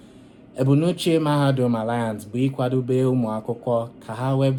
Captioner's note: speaking in Igbo